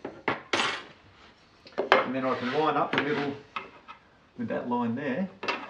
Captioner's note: none